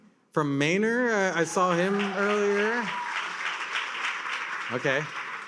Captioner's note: attendees cheer and applaud